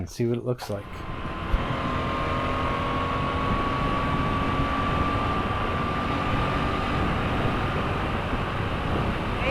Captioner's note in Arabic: صوت المحرك